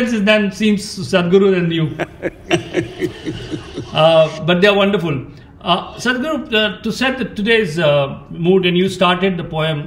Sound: Sadhguru laughs

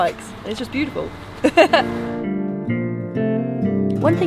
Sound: laughs

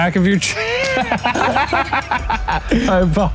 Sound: laughs

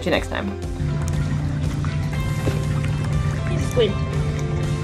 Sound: background music; gentle water splashing noise

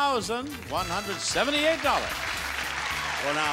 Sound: audience clapping

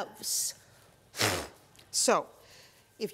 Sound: blowing air

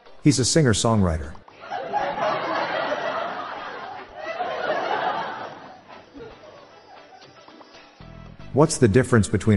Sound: laughter

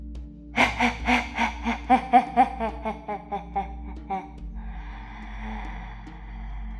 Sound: inhales

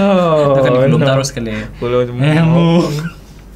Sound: laughs

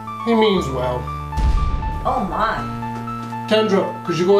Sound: distant explosion

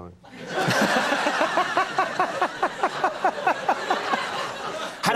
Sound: laughter

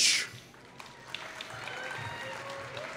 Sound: applause

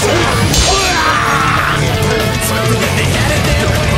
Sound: KO Scream

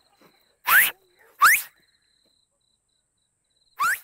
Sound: whistles dramatically; insects chirping

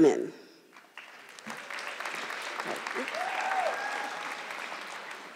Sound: audience clapping

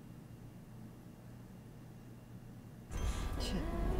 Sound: phone ringing

